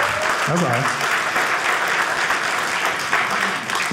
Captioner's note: audience cheering